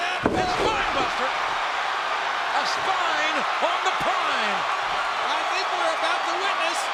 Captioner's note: audience cheering